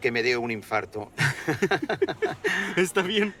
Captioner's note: laughs